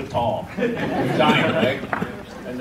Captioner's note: audience laughs